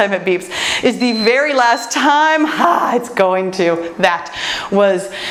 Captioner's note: timer beeps